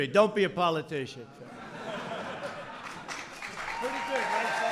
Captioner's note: laughter and applause